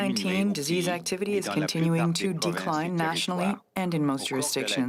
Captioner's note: speaking French